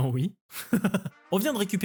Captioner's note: laughter